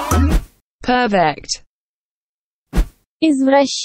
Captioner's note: electronic voice